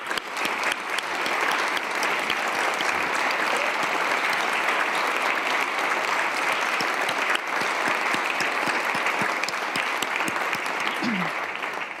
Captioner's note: applause